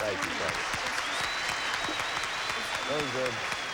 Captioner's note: audience applauding